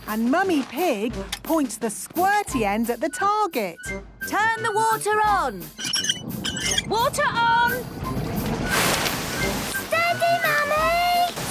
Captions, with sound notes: And Mummy Pig points the squirty end at the target! - Turn the water on! - (wheel squeaking) - Water on! - Whooosh! - Steady, Mummy!